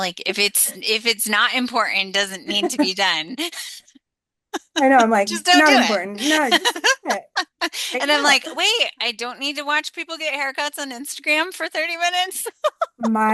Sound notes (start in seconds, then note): 4.6 laughs